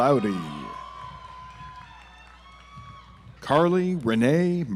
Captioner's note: audience applauds